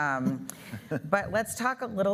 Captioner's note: chuckling